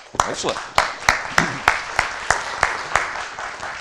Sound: applause

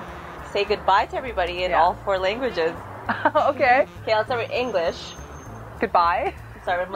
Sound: laughs

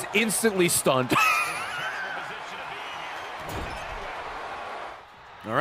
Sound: laughs

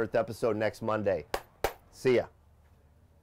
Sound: claps

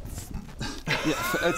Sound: laughs

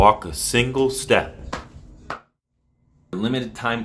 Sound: man stepping

